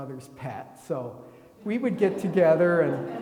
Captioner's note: attendees laughing